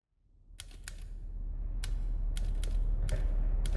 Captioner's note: typewriter ticking